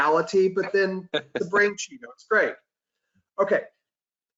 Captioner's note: audio warps